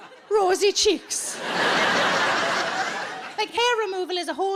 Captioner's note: audience laughing